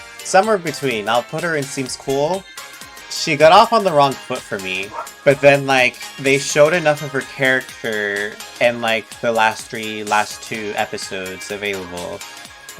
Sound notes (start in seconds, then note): 4.8 woof, woof